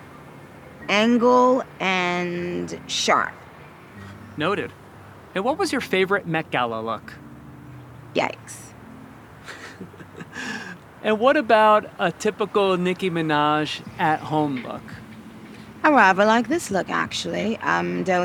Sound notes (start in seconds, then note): 9.4 laughing